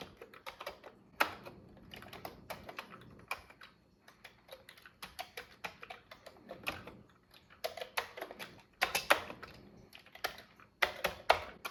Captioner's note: typing on a Commodore 64 keyboard